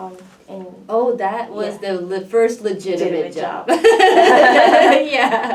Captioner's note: laughs